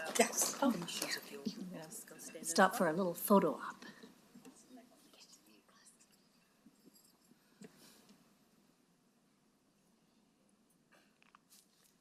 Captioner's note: applause